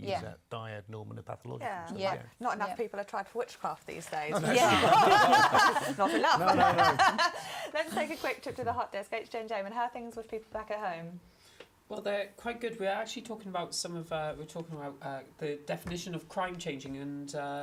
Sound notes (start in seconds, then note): 4.3 laugh; 4.3 laughter